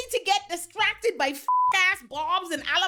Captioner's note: beep